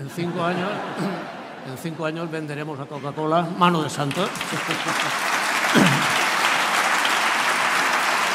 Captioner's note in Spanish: Risas; Aplausos